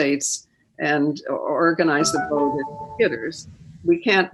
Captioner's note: device rings